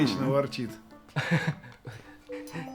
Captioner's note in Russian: смешок